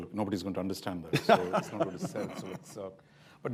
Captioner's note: laughter